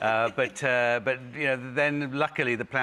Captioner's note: laughing